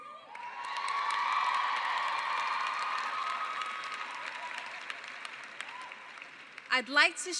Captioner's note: cheering